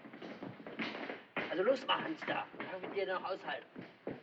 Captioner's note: German